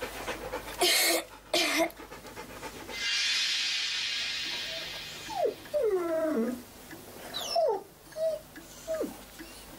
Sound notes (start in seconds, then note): 0.8 Bess coughing; 3.6 mystical music; 5.9 dog whimpering